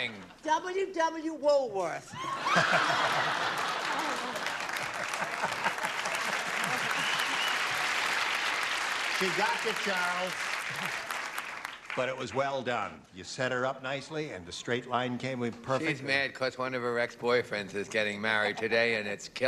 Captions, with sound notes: KIND OF THING. W.W. WOOLWORTH. [LAUGHTER] [CLAPPING] SHE GOT YOU, CHARLES. [CLAPPING] BUT IT WAS WELL DONE. YOU SET HER UP NICELY, AND THE STRAIGHT LINE CAME IN PERFECT. SHE'S MAD BECAUSE ONE OF HER EX-BOYFRIENDS IS GETTING MARRIED TODAY,